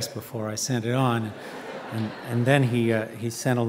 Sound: audience laughing

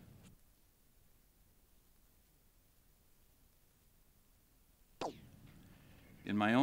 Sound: silence

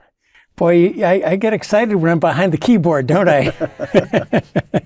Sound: laugh

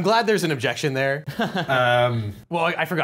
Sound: laughing

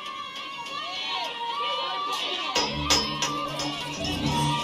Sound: goonies yelling

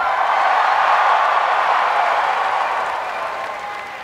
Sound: applause

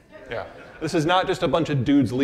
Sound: audience laughing

